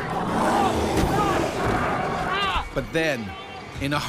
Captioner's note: yells; voiceover